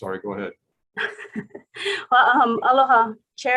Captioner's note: laughing